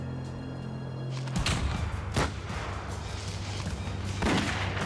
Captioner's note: guns firing; suspenseful music